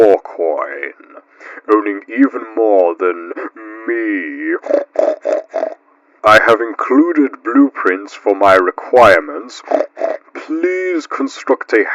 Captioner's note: pig Snorts